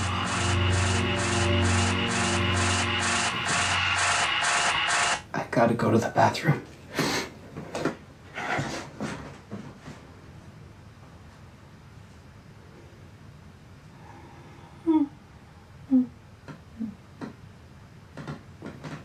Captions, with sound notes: (unsettling music) - I gotta go to the bathroom. (sniffs) - Hmm, hmm, hmm.